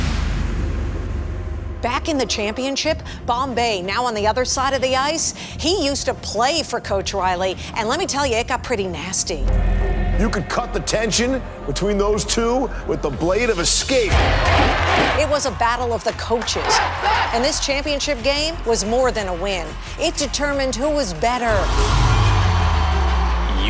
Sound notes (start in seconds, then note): 0.0 dramatic music; 13.9 banging; 16.4 cheering